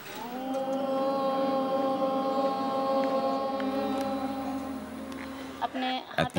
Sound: students chanting "Om"

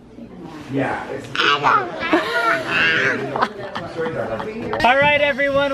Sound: child growling; laughing

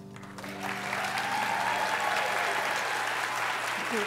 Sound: applause

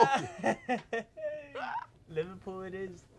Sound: both laughing

